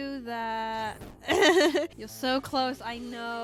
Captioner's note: laughs